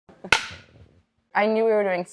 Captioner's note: marker clacks